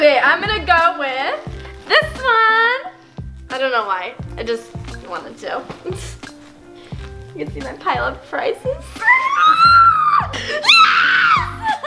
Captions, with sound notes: - Okay, I'm gonna go with. This one! I don't know why. I just, wanted to. You can see my pile of prizes. (screeches) Yes!